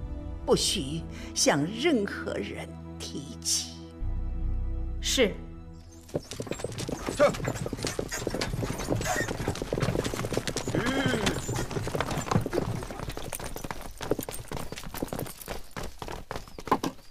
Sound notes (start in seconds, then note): 6.4 horse galloping; 11.6 horse stopping